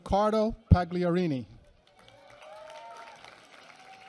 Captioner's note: applause